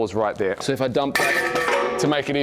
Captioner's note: metal clangs